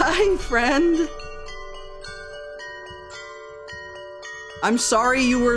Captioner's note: creepy clanging bells